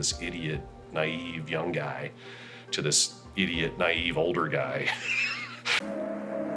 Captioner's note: laughs